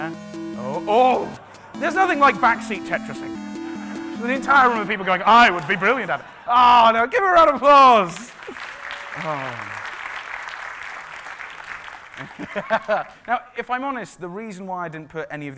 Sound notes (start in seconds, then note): 8.0 applauding; 12.1 laughing